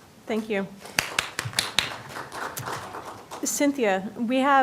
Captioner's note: applause